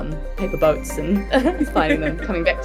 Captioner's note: chuckles; Ruby chuckles